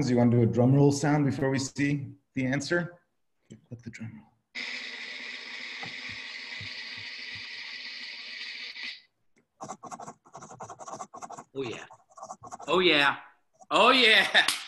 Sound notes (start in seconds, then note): 4.7 drum rolling; 9.6 typing